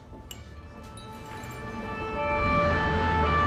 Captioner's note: siren blaring